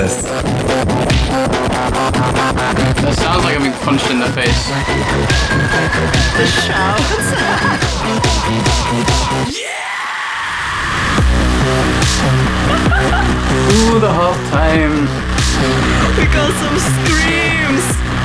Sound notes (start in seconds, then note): 9.4 gutteral scream; 12.2 laughs